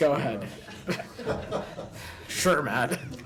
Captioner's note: laughter